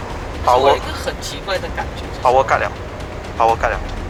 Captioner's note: power cut